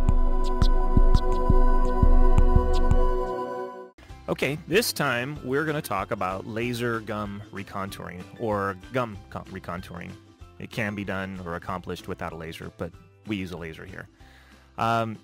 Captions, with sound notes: - [Voiceover] OK, this time we're going to talk about laser gum recontouring, or gum recontouring. It can be done or accomplished without a laser, but we use a laser here.